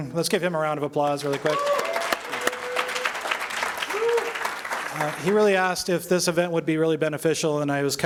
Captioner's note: applause